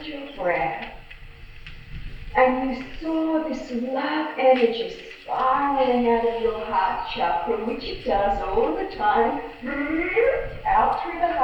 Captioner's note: makes swirling noises